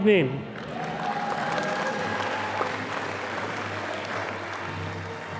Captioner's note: audience applauding